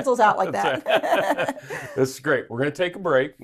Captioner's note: both laughing